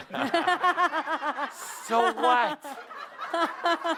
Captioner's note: lots of laughter